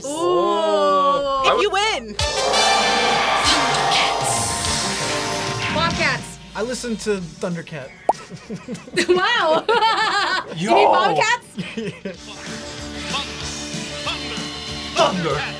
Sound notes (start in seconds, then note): 2.2 triumphant music; 8.2 laughs